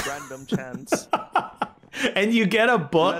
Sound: laughing

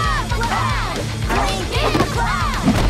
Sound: kids chanting

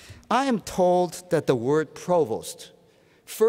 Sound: none

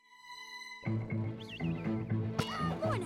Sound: whistling

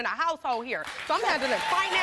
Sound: audience applause

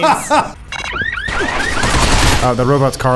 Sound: alarm blaring in game

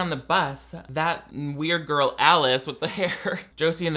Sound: chuckling

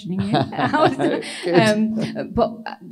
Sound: laughs

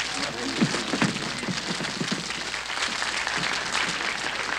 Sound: applause continues

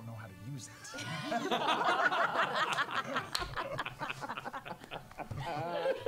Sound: all laugh

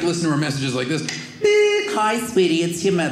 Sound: beep

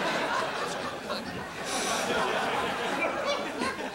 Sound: whispering

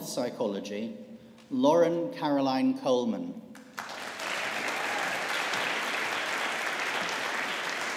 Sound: audience applauding

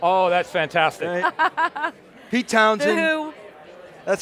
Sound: laughing

